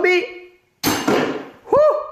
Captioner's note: clink, bonk